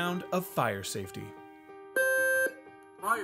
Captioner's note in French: son d'alarme